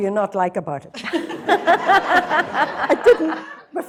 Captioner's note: laughter